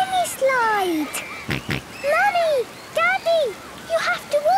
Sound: George snorts

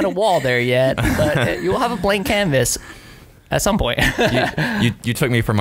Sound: laughing

